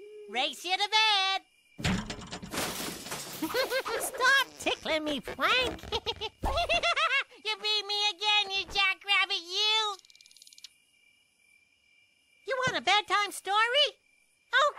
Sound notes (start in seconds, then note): 1.8 crash; 3.2 giggles